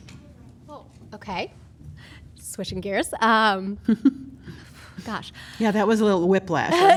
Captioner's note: laughter; laughter